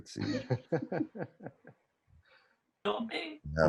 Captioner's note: laughs